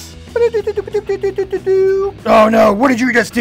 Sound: making gibberish noises

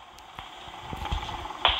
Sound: fan humming; foot taps

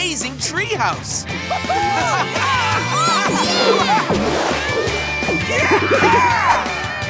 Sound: cheering

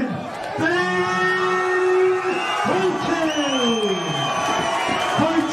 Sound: crowd cheering

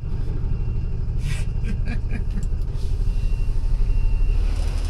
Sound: chuckling

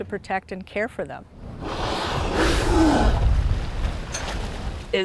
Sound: whale spouting

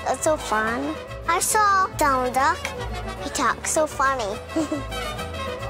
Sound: giggles

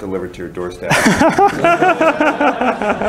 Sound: laughter

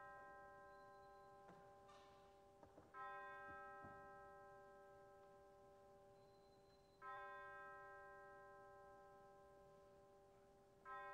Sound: bell tolls

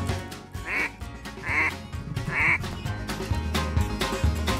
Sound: upbeat country music; duck calling

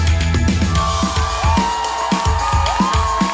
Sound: cheering; upbeat music

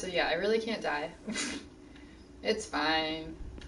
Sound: laughs

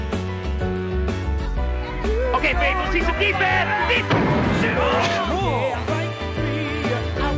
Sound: Faith thudding; Howard grunting

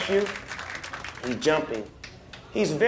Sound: applause

